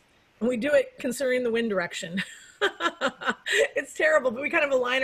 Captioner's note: laughs